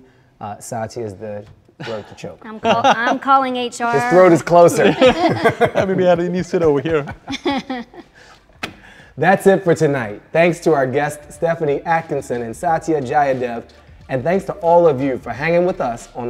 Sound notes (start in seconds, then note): 4.0 all laugh